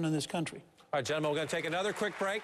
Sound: applause

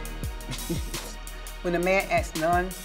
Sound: laughs

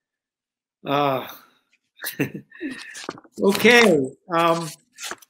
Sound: chuckles

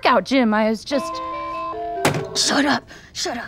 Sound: ringtone

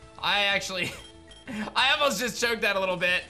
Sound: giggles

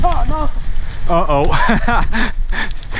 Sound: laughs

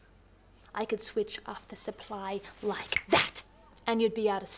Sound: snapping

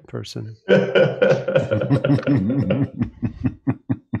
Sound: laughter

